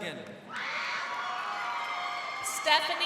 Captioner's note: crowd cheering